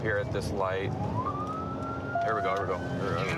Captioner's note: sirens